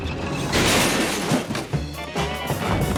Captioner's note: carts clatter; carts bang; lively music